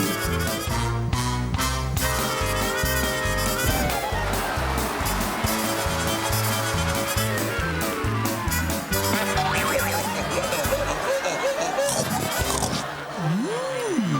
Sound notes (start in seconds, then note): 3.4 applause; 9.7 braying; 11.8 gulps